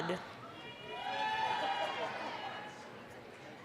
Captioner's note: applause, cheering